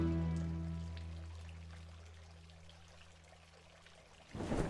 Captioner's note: fountain noises